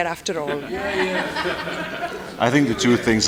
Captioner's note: laughter